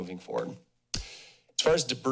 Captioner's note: smacks lips